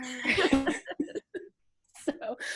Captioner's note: laughs